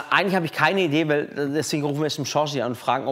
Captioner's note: none